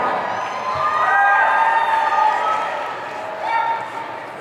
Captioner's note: audience cheering